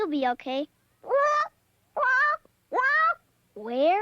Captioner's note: bird squawks